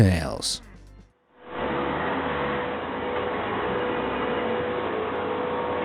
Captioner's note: forklift engine whirring